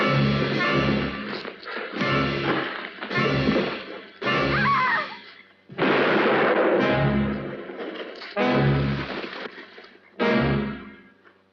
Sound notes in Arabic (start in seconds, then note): 0.2 أصوات قتال; 4.5 صرخات كين; 5.7 طلق ناري